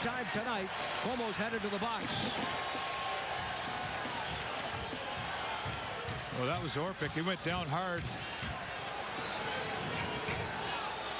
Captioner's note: crowd noise